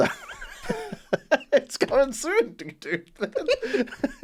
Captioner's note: laugh; laugh